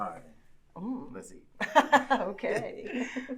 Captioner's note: Paulina laughing